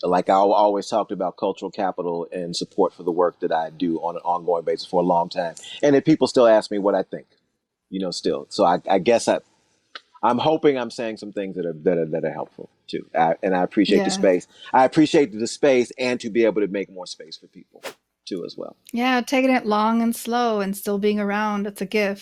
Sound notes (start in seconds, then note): 17.8 whoosh